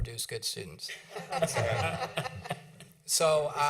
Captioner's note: laughter